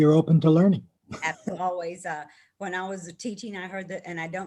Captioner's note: laughing